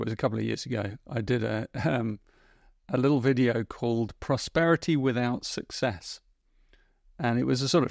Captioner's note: chuckles